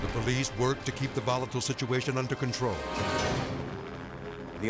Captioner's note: helicopter whirring